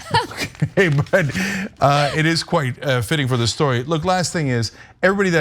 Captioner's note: laugh